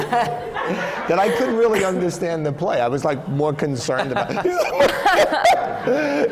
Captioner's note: laughter